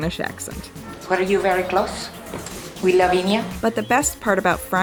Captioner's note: Phryne with a bad Spanish accent